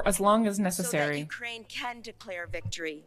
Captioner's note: speaking French